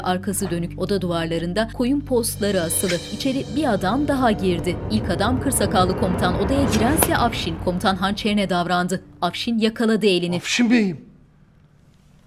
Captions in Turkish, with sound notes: (Müzik - Gerilim) (Kılıç sesi) (Müzik - Gerilim) Afşin Bey'im.